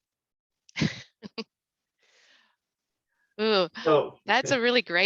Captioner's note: chuckles